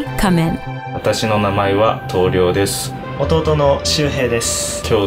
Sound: speaking in foreign language

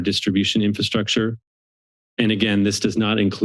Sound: silence

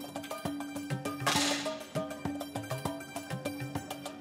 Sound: rifle fires

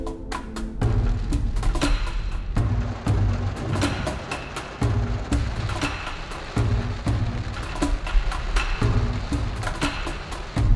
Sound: rain and thunder noise

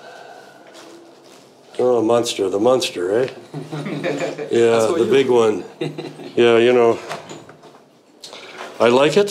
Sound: all giggle

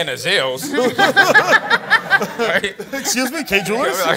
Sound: laughs

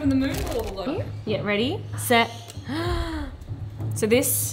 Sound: gasps

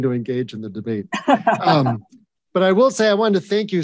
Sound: Ambassador Hills chuckling

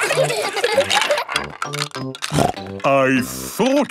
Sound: laughter; snorting

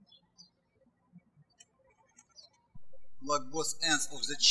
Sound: birds chirping

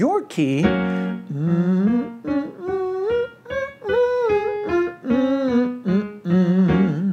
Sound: soft music continues; humming

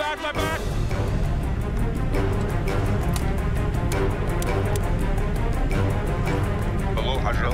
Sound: beeping

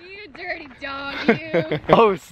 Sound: chuckles

